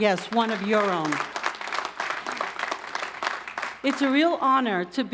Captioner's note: crowd applauding